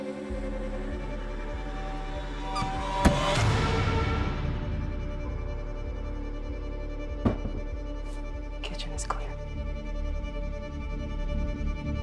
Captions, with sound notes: (dramatic bang) (tense suspenseful music) - Kitchen's clear.